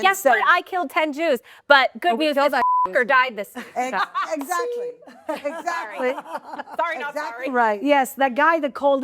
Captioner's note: beep